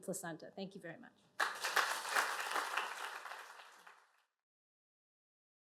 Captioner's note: applause